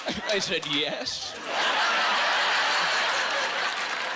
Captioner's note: laughing and applauding